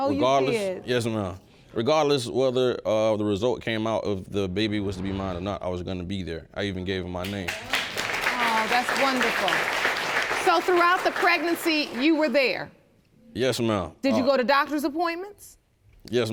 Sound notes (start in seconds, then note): 7.2 audience applauds